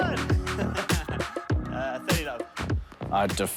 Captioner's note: laughs